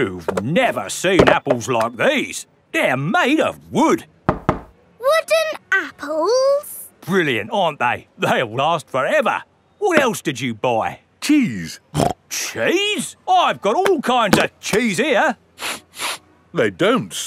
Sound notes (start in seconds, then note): 4.2 knocks; 12.0 snorts; 15.6 sniffs